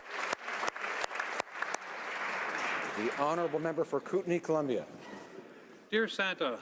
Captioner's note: applause